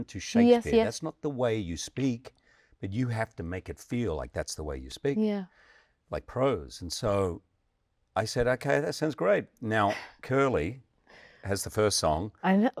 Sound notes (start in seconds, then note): none